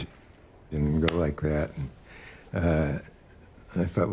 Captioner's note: Dick smacking his hands